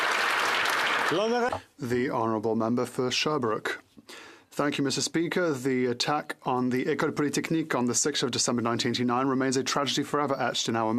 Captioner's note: applause